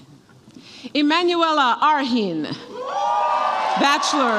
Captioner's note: audience applauds and cheers